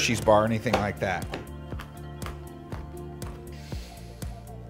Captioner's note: chopping loudly